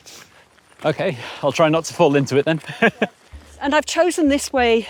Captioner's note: laughs